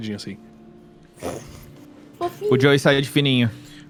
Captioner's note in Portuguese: risos